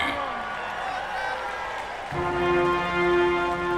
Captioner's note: cheering